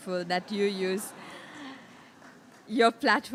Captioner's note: laughter from audience